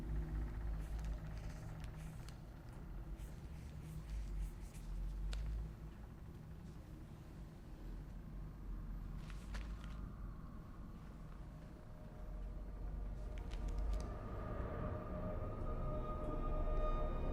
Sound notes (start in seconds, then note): 1.6 pen scribbling; 13.8 eerie music